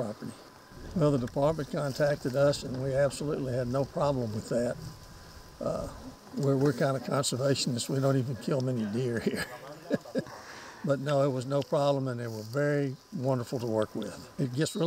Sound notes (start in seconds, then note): 9.2 laughs